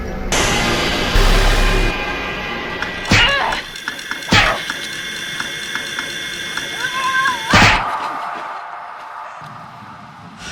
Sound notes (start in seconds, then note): 3.1 Kody grunting; 3.1 strikes thudding